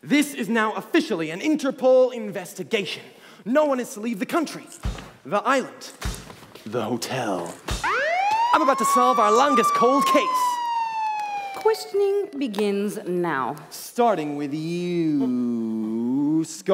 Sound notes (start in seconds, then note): 7.8 alarms sound